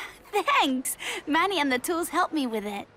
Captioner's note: with a giggle